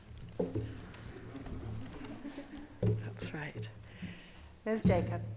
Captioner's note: audience chuckle